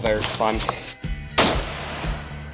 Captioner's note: gunshot